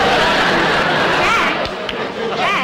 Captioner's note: audience Laughing